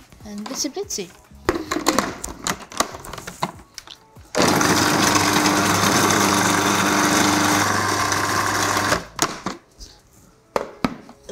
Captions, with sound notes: and blitzy-blitzy. (dish clatters) (food processor whirring)